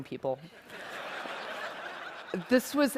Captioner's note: laughter